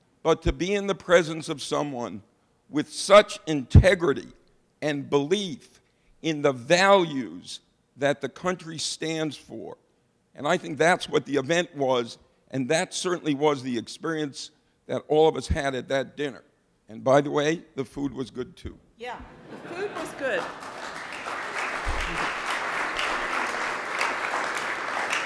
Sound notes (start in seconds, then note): 19.3 audience laughing; 22.0 audience applauding